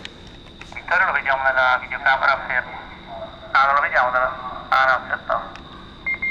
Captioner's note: voices in the background